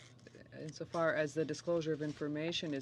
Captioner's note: speaking French